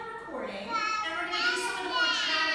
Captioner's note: babbling